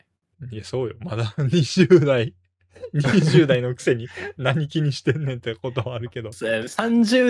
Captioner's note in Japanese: 笑い